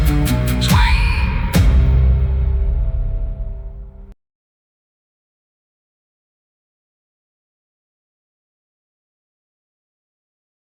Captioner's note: twang